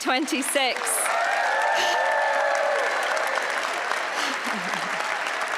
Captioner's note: cheering and applause